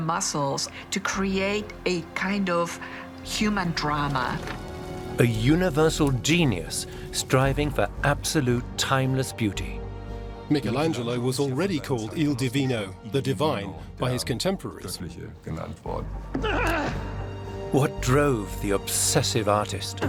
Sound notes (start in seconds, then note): 9.9 male voice in German; 19.9 suspenseful music intensifies